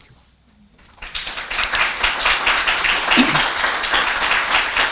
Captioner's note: audience applauding